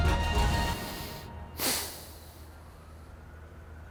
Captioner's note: sighs